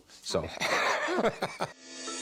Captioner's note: laughs